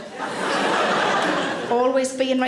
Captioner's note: audience laughs